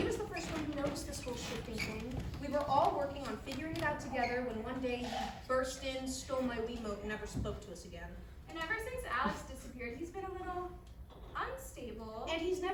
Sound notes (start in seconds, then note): none